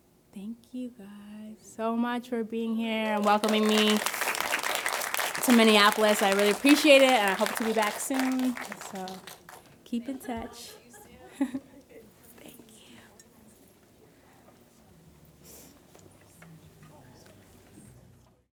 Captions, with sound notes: Thank you guys so much for being here and welcoming me (audience applauding) to Minneapolis. I really appreciate it and I hope to be back soon, so keep in touch. - Thank you all. See you soon. - Thank you. (audience chattering)